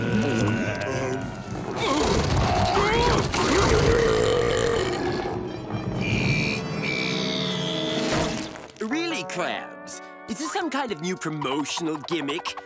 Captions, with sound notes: [burping] Eat me! Really, Krabs? Is this some kind of new promotional gimmick?